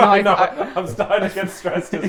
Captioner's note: both laughing